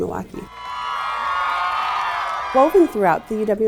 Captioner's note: students cheering